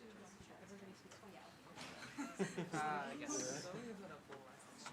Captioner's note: background chatter